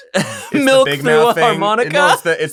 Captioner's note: laughs